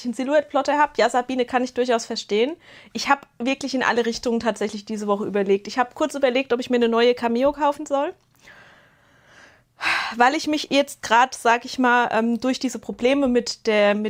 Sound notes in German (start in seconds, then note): 8.4 japst; 9.0 seufzt